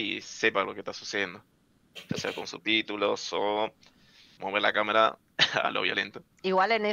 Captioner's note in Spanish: risas